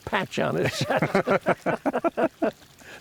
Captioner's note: laughter